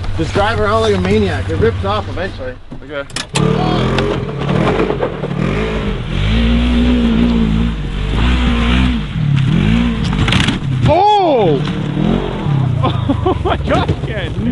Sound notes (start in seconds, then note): 3.7 engine roars